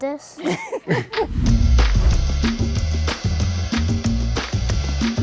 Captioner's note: laughs collectively